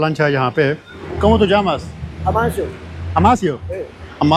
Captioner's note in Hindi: स्पेनिश में बोलते हुए